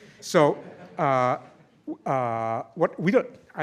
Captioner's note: laughter